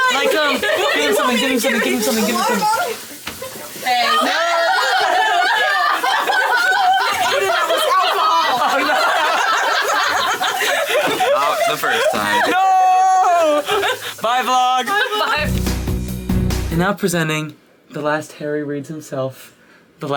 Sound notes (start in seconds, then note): 9.6 all laughing